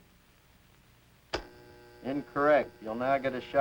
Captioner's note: buzzes